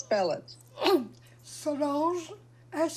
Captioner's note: clears throat